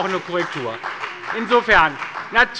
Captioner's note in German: Beifall bei der SPD, dem BÜNDNIS 90/DIE GRÜNEN und der LINKEN